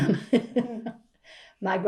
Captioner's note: laughs